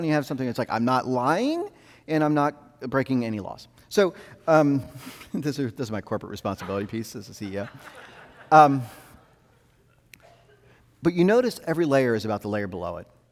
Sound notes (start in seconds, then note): 7.2 audience laughing